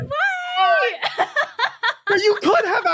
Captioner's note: laughs heartily